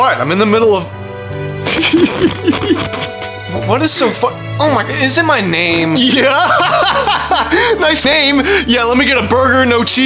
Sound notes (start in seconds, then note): 1.6 both chuckling; 6.0 laughs